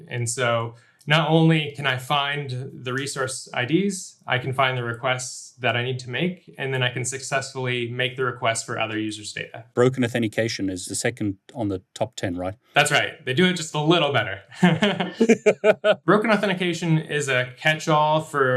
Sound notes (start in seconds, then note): 14.5 laughs; 14.5 chuckles